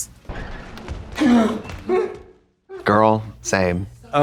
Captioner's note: the Creature groaning